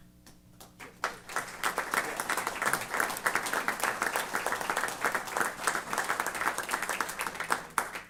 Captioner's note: applause